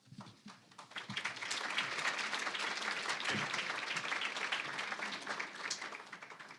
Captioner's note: applause